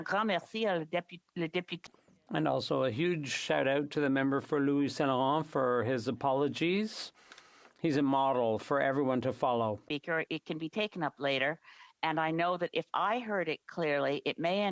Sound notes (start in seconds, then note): 5.2 speaking French